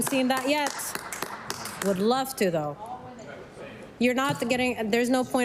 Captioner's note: applause